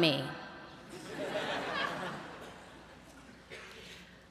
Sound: laughter

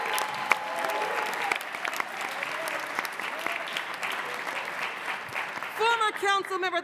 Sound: applause

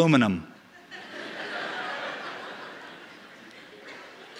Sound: laughing

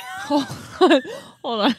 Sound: chuckles

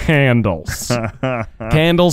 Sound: laughing

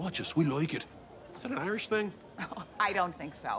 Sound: chuckles

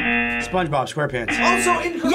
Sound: buzzer

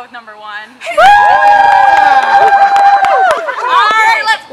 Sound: cheers

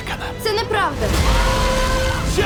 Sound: screaming

